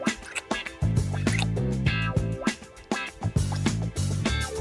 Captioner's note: kissing sounds